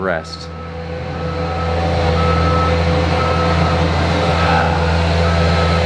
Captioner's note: truck whirring and beeping; sighing